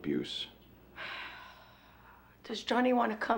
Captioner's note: sighs